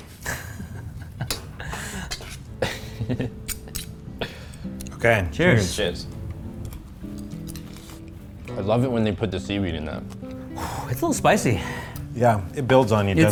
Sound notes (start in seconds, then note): 0.1 laughs; 2.2 chuckles